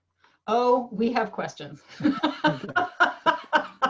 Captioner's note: laughs